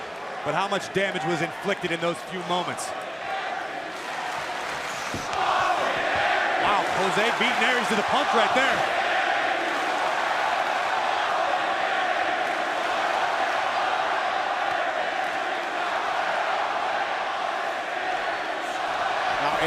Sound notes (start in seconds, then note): 3.0 crowd cheering; 10.3 crowd cheering